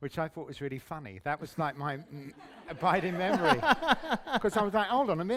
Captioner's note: laughter